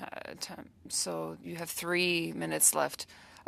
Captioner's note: speaking French